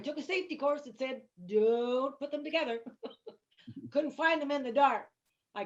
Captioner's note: chuckles